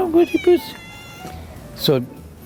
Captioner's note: meows